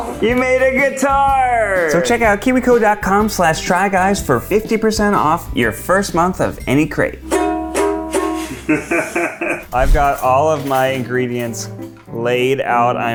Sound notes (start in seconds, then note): 6.1 ukulele strums; 8.6 laughs